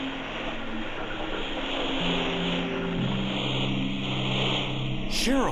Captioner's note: static replaces voice